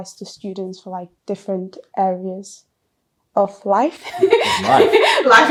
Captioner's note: laughs